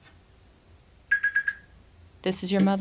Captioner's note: alarm beeping